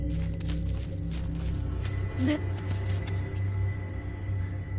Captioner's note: footsteps thumping